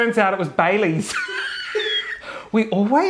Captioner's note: laughing loudly